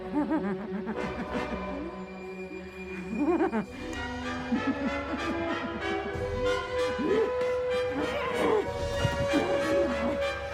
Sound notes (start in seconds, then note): 0.2 vivien cackling; 7.9 vivien grunting